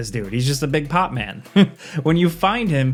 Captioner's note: chuckles